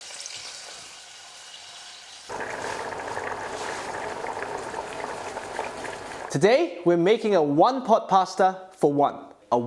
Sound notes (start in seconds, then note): 0.0 sizzling sound; 2.1 boiling sound